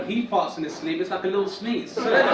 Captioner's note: audience laugh